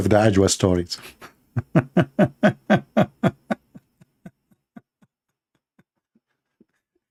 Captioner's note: Ketawa